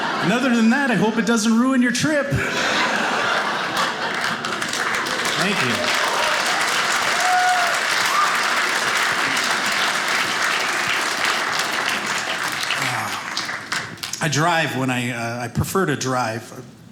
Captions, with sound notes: "Other than that, I hope "it doesn't ruin your trip." (audience applauding) Thank you. (audience applauding) I drive—prefer to drive.